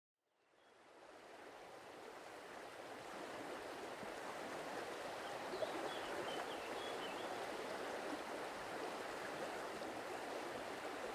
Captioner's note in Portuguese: Sons de Rio + Floresta